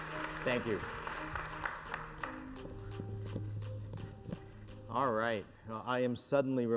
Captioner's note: applause